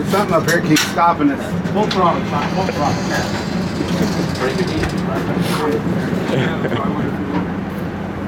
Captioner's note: people laughing and chuckling